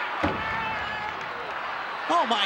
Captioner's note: hand thuds